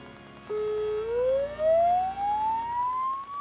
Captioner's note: sirens